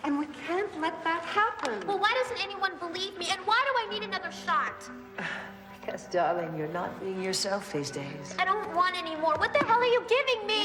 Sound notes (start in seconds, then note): 5.7 scoffs